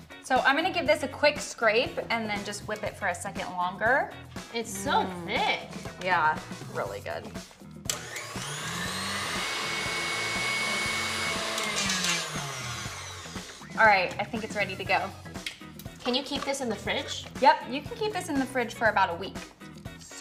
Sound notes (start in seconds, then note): 7.8 blender whirling